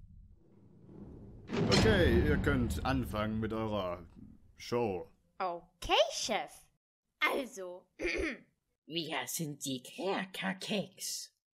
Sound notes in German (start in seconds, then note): 8.0 räusper